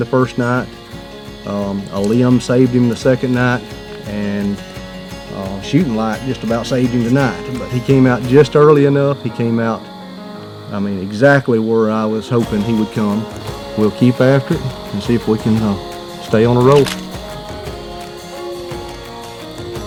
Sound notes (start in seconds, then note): 16.7 sound of photos; 18.9 soft music